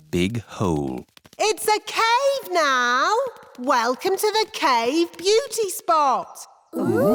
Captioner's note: echoing